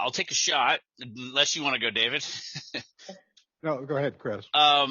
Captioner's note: laughs